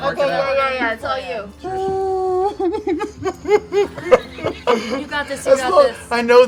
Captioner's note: mock-crying